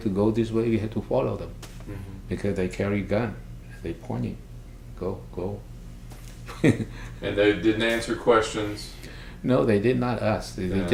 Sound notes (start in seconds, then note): 5.7 laughs